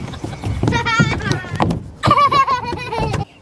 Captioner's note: laughs